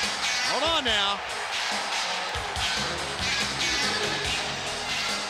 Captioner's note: audience cheering; upbeat music